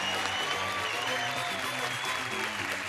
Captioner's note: whistling; clapping